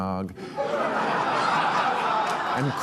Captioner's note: audience laughing